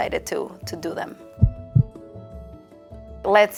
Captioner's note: heartbeat beating